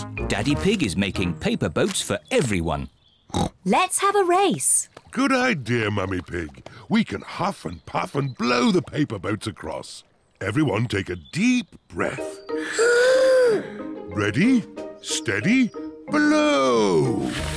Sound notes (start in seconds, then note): 3.4 snorts; 12.5 all inhale